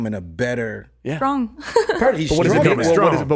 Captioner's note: chuckles